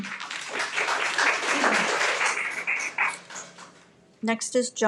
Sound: everyone applauds

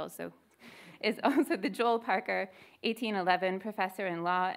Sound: laughs

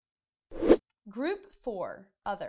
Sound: air swooshing

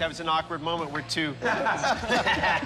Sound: both chuckle

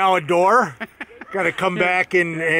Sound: laughs

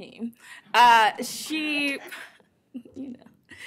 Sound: laughter

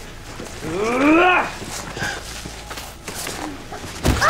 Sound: Chad groaning

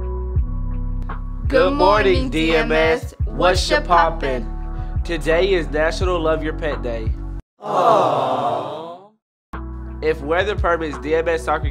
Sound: crowd: Awwww

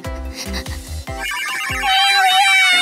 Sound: rapid breathing; beeping

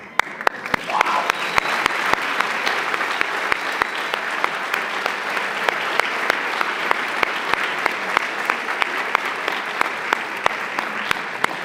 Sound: applause

